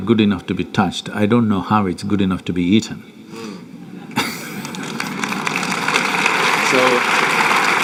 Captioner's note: applause